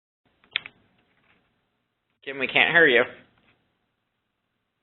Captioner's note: silence